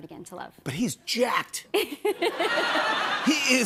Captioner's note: laughter